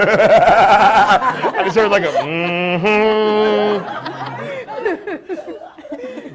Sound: breaks off laughing; everyone laughing

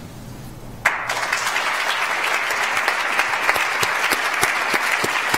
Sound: audience applauds

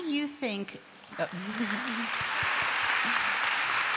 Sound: applause

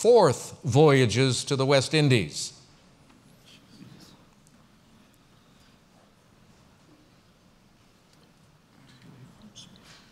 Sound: pause

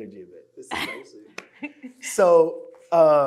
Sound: speaking faintly

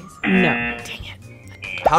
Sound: buzzer razzing

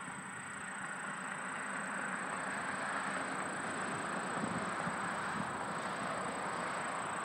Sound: vehicles driving on road

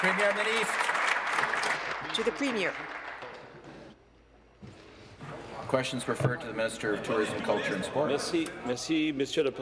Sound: applause

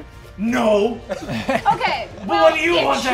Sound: all chuckling

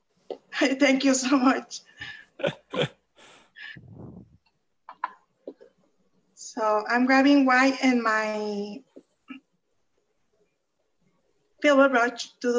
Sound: chuckles

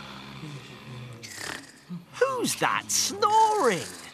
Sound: snoring

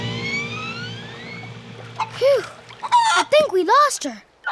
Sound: clucking

